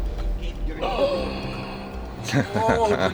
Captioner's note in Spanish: se ríe